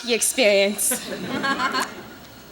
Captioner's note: laughter